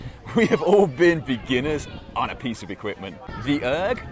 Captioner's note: laughs